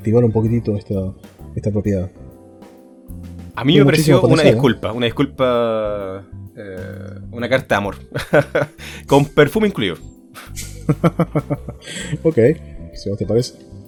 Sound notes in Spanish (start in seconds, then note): 8.1 risas; 10.4 risas